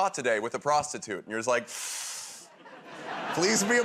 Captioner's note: inhales sharply